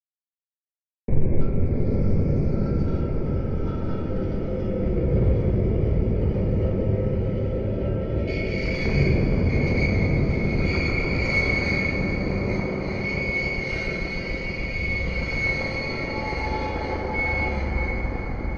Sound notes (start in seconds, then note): 0.0 sound of drone